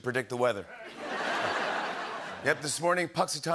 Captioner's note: laughter